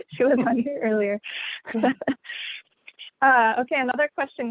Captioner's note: laughter